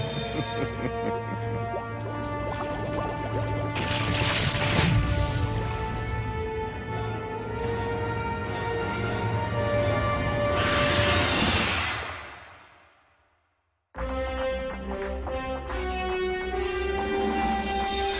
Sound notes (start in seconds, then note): 0.0 evil laughter; 10.6 screeching